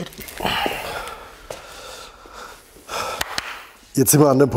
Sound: hard breathing and deep breathing

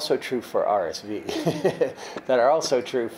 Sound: laughs

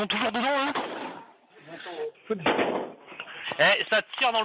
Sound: shots fired

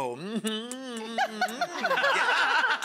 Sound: kiss noises; women laughing

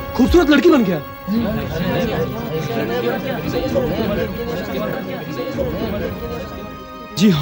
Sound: indistinct chatter

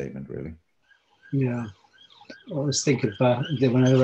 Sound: sirens wailing

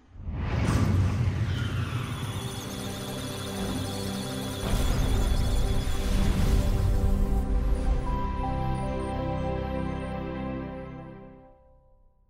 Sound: electronic Sounds of Data; musical Tones

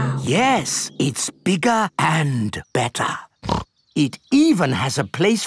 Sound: snorts

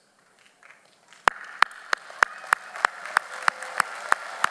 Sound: audience applauds

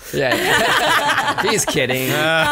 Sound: laughs

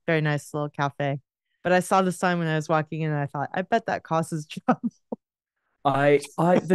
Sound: laughs

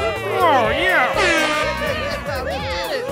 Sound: airhorn

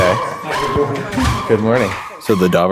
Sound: dog barks

